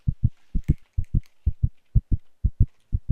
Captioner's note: heart beats stop